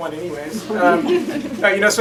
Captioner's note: laughter